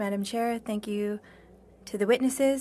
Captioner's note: speaking French